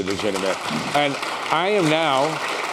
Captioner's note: applause